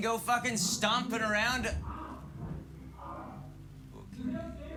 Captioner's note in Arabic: آهات; صراخ مكتوم